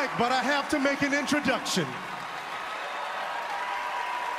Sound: cheers and applause

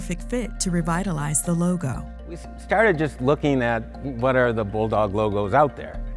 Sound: none

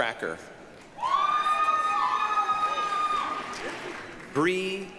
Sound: applause, cheering

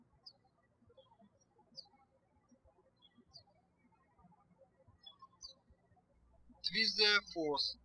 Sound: birds chirping

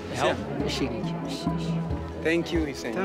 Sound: speaking foreign language

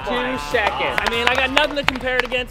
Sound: applause

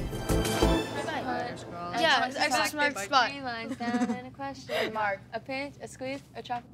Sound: laughs

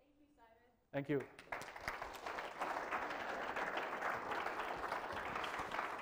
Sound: applause

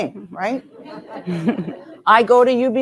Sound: audience laughing

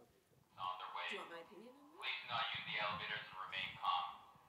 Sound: voice over intercom

